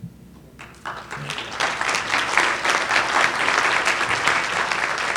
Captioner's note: audience applause